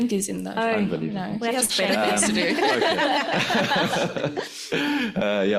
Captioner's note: laughs